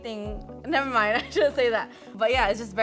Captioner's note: laughing